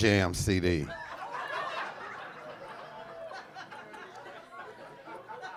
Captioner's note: audience laughing